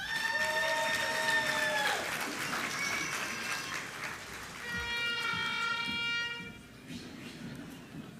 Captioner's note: applause